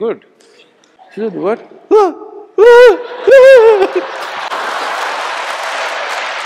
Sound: laughter/Applause

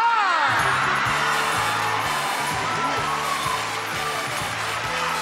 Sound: audience applauding

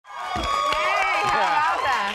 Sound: audience cheering

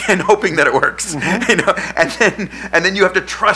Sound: chuckles

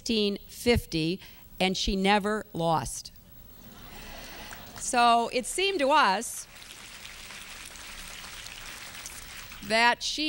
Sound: applause

